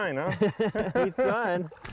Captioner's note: laughter